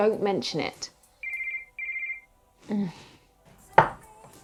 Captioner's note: phone rings